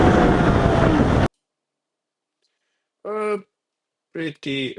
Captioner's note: tires screeching